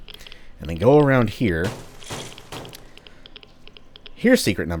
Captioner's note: smash smash smash